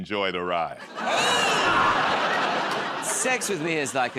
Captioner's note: laughter